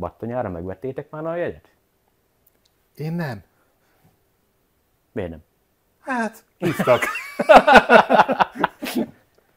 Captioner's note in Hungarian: Nevetés